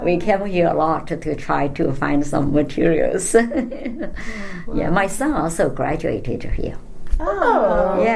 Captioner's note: laughs